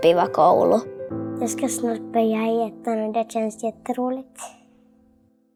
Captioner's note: child speaking